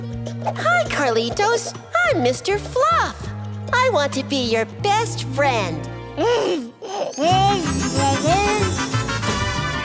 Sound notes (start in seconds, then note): 6.2 babbling